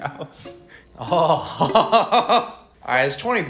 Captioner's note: Santa Claus noises